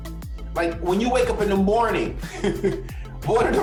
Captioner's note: laughing